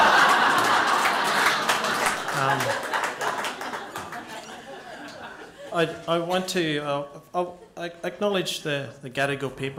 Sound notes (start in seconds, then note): 2.6 laughter